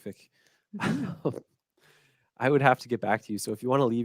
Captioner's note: laughs